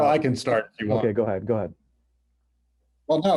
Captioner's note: laughs